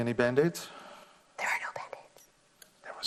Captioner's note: whispering